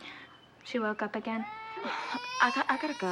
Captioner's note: allison crying